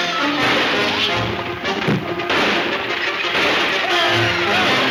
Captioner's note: gunshots banging